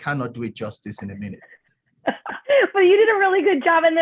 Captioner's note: laughter